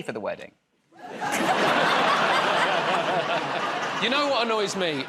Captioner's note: laughter